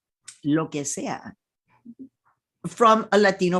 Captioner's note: speaking in foreign language